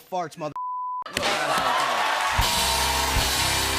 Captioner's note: laughter, cheers, applause